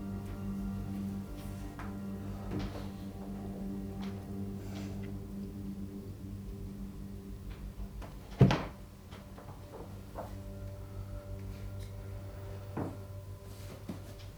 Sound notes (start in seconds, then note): 8.3 door shutting; 11.4 stirring music